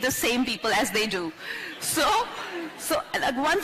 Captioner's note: few laugh